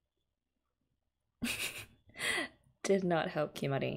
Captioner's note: laughs